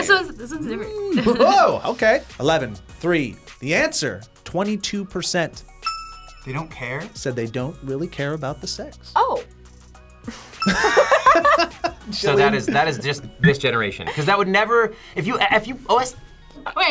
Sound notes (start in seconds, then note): 0.8 laughs; 10.6 laughs